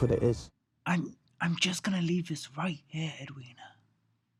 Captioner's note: whispers